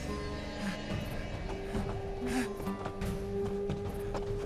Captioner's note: wind howling